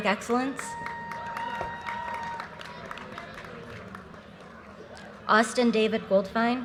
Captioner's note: audience cheers and applause